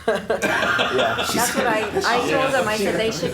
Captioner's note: laughing